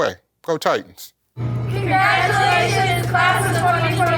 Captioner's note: crowd